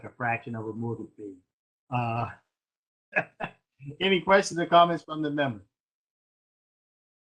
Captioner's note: laughter